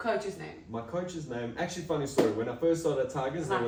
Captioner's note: clap